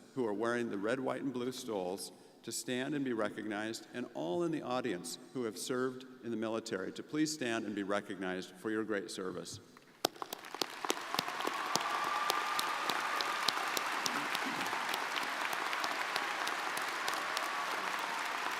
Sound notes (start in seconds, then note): 10.0 crowd applauding